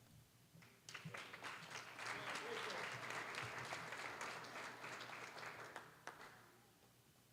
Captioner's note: applause